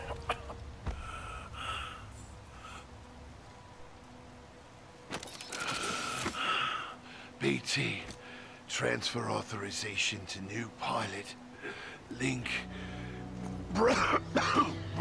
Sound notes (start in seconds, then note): 8.1 struggled breathing; 13.7 coughing